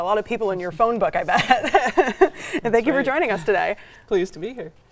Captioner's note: laughs